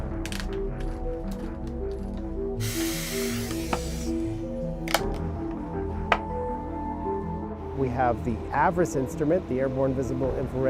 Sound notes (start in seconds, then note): 2.6 air hissing